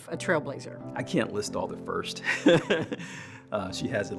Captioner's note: laughs